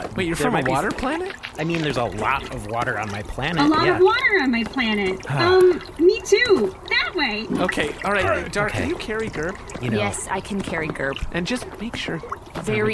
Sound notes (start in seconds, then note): 5.2 Nermut sighs; 11.8 quietly